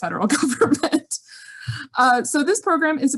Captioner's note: laughs